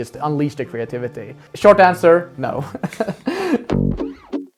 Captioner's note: nervous laugh